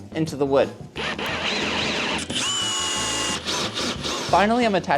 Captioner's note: tool whirs